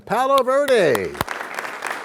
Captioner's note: applause